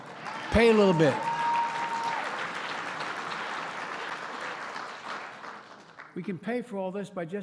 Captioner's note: applause